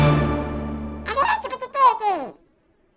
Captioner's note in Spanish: lenguaje desconocido